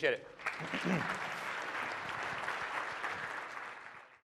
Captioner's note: clapping